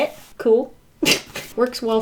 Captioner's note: laughs